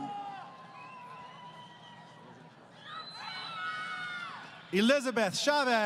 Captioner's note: crowd Cheering